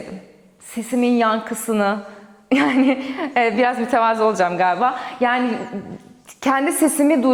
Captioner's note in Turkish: kahkaha